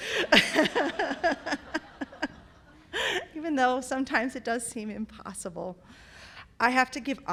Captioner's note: laughter